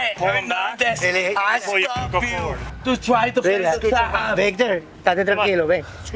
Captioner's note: officer speaking Spanish